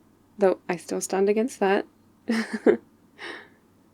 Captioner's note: laughs